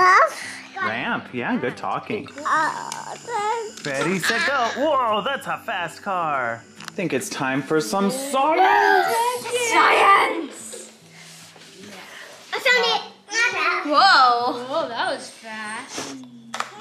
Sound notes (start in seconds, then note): 2.7 babbling